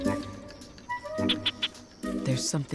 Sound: gecko chirping

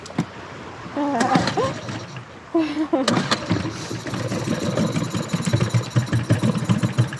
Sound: engine sputtering

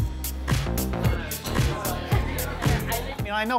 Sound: mixed chattering

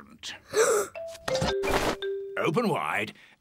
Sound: gasps

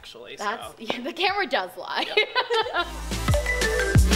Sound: laughs; classy electronic music

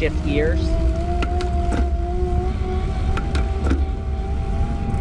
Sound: bicycle motor roaring

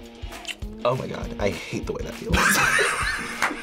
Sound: kisses; both laugh

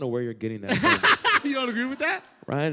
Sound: laughter

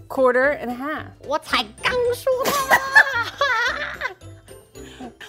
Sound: speaking in mandarin

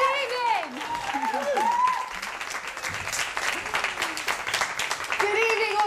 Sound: applause continues

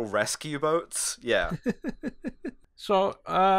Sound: laughter

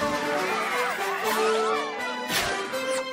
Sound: ponies cheering

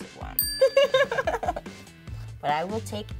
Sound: bell dinging

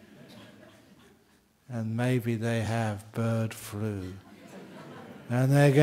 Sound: laughter

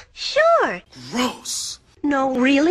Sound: voice of Napoleon Dynamite

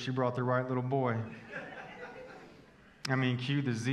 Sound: congregation laughing

